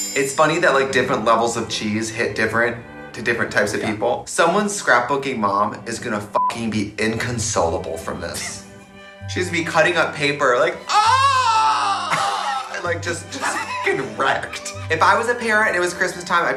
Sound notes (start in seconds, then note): 6.3 beeps; 10.8 cries